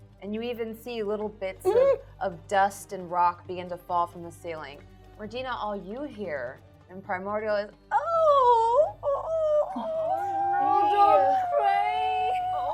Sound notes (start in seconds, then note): 8.0 crying